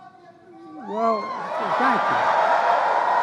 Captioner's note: applause